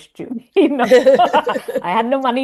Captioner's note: laughing